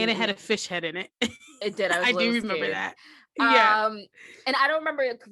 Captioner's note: chuckle